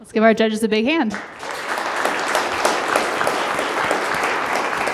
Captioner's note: applauding